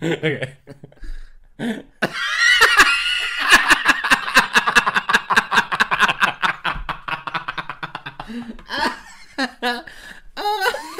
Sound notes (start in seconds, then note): 2.0 hysterical Laughter